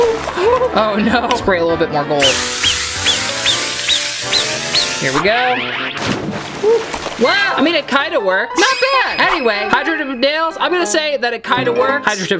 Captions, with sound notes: Oh no! Spray a little bit more gold. (spraying) Here we go. Ooh! Whoa, I mean it kinda works! Not bad! Anyway, hydro dipping nails, I'm gonna say that it kinda works.